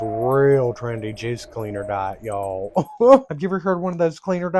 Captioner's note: hungry chuckle